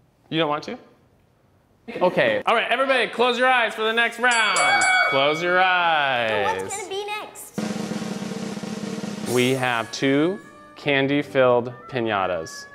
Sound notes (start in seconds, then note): 4.2 bell dinging; 7.5 drum rolling